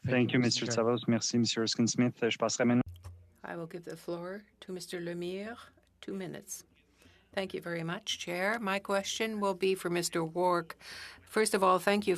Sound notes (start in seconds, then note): 7.1 speaking French